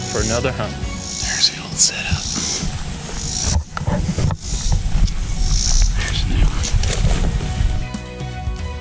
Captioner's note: whispering